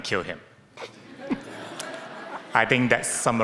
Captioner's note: audience laughing